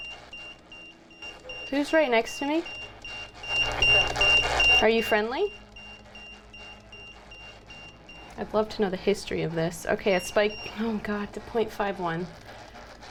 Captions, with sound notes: Who's right next to me? [EMF beeping] [spirit box voice] Are you friendly? [EMF beeping] I'd love to know the history of this. Okay. It spiked. [EMF beeps] Oh, God. To point five one.